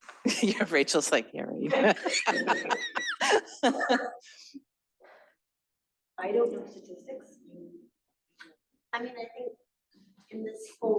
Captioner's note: laughter